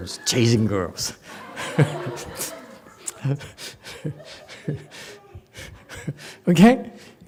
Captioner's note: laughs, audience laughs